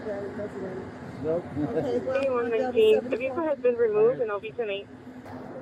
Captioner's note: radio chatter